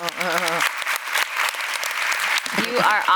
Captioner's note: applause